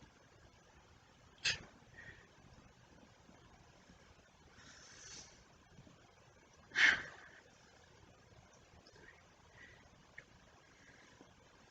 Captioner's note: deep breathes and murmurs throughout set